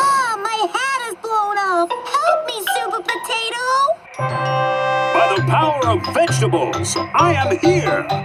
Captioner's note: none